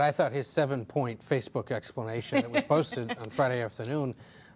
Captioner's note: laughter